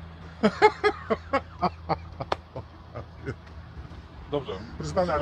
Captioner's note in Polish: głośny śmiech